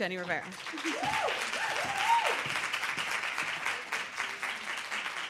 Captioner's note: audience applauds